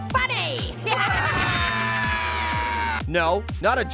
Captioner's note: evil laughter